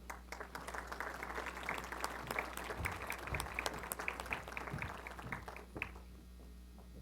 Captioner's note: applause